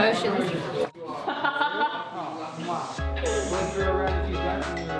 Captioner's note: laughter, chatter